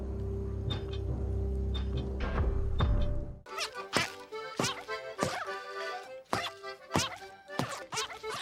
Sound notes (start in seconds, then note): 3.4 annoying squeaking